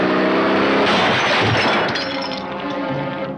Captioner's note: crashing